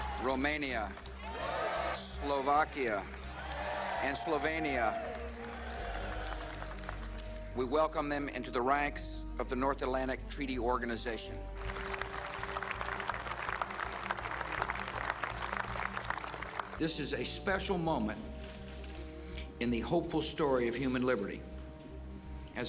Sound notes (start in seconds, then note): 0.0 cheering; 11.5 applause